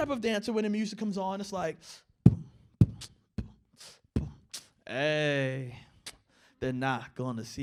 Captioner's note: beat boxing